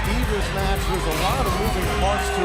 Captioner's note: crowd cheering